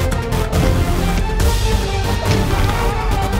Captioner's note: thudding